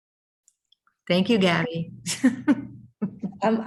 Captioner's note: laughs